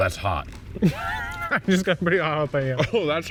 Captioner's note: laughing